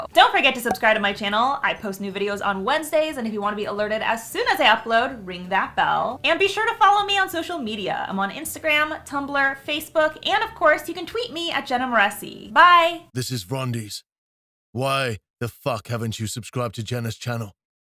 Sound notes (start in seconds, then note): 12.8 rumbling Male Voice